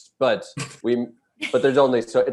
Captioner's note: Desi and Eric laughing